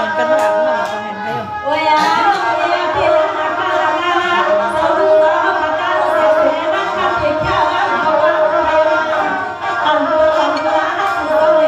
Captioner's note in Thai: ปรบมือ